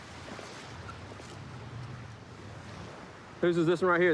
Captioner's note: none